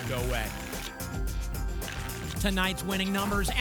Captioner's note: tickets shuffling